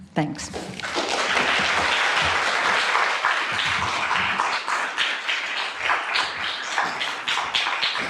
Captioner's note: applause